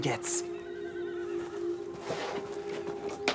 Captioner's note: A horse whinnies